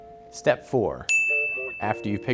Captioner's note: dinging